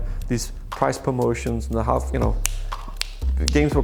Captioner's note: snaps